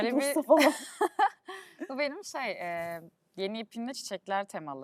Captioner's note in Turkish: kahkaha